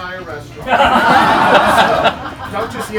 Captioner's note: laughing